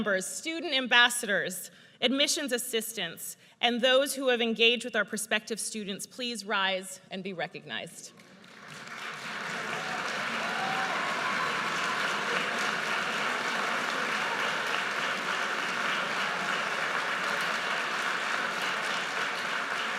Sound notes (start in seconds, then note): 9.9 audience cheers and applauds